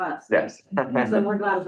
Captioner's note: chuckles